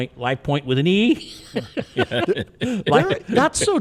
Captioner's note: people laughing